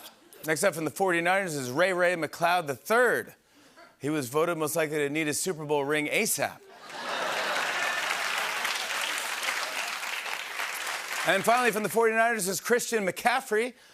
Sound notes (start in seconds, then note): 6.7 laughter and applause